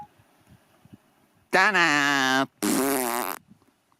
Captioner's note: blows a raspberry